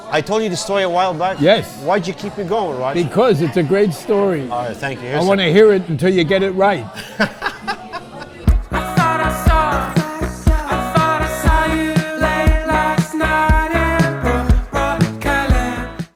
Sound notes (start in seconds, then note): 6.9 laughing